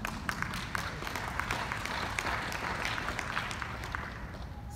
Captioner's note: audience applauding